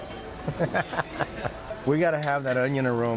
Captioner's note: people chuckling